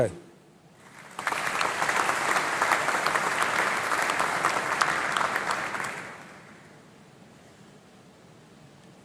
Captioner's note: applause